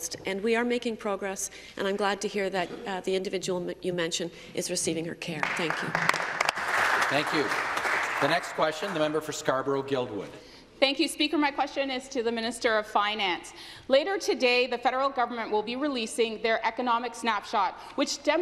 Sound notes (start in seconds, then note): 9.4 applause